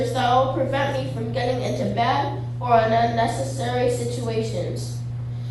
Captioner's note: none